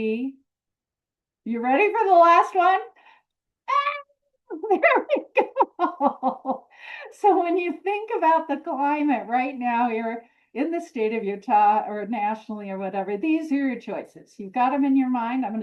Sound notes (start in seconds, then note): 4.6 laughs